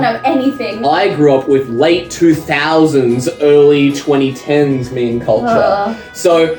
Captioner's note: shudders